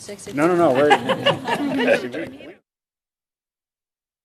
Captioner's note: laughter